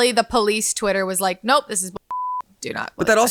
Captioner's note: beep